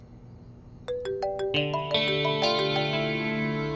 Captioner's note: Phone ringing